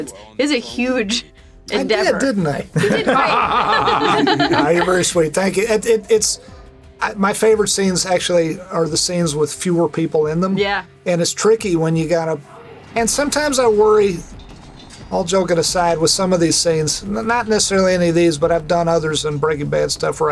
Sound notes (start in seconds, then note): 2.6 laughing